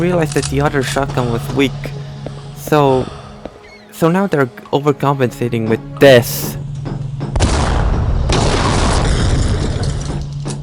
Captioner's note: blast